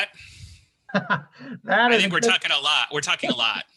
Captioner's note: laughs